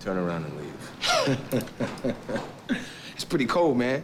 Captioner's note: Jeremy laughs